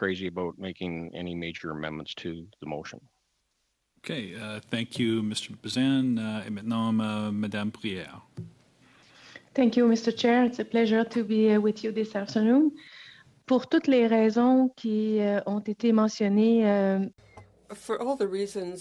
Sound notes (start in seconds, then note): 12.8 speaking French